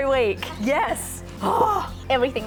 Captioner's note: triumphant sigh